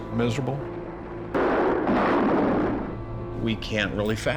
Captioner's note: gunfire